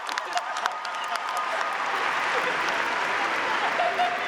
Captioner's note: audience applauding and cheering; faculty laughing